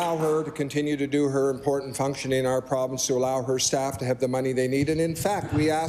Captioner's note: applause